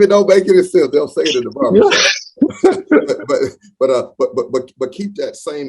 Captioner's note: laughs